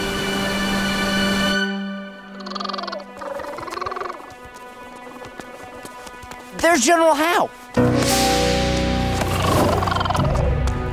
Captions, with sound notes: [chittering] There's General How. [chittering]